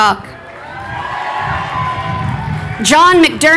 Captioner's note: crowd cheering